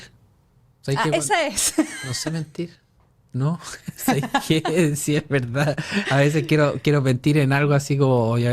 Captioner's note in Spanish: risas